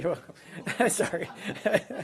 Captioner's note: laughter